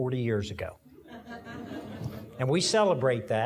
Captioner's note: audience laughing